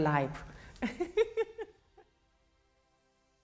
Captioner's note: laughing